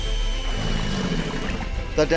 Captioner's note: eagle noise; growling noise